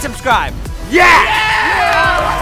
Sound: all cheer

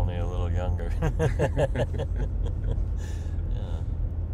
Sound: laughing

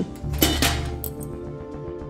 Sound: metal objects clinging; adventure music

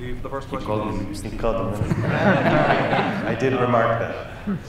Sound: audience laughing

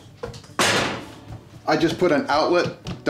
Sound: clanking

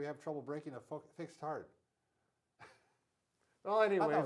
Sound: laughs

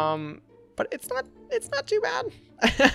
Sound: laughs

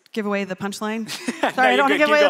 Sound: all laughing

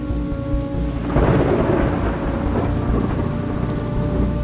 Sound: thunder sounds

